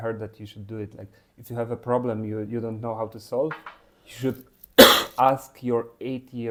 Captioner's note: coughing